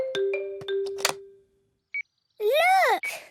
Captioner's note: clicks; meter beeping